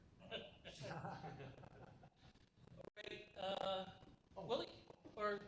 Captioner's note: laughter